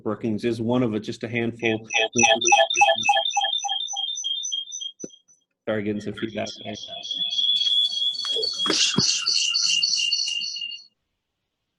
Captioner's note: video feedback sound